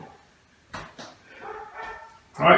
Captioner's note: barking dog